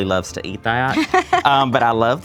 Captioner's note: laughs